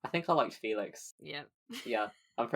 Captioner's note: laughs